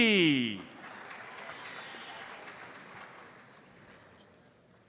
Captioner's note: audience applauds